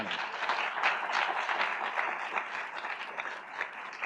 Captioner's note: audience applauds